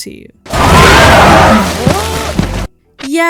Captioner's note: alien roars, Barry yells in fear